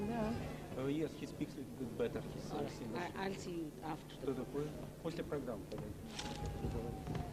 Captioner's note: russian; russian